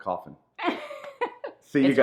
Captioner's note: woman laughing